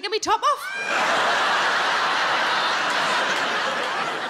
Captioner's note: audience laughing